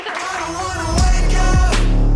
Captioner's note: audience applauding